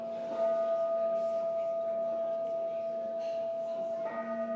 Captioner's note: bowl ringing